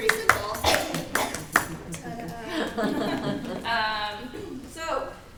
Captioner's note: audience applauds